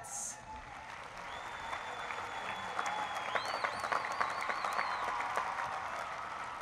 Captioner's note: applause